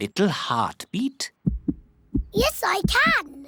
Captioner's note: heart thumps